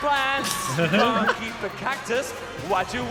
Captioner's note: both laughing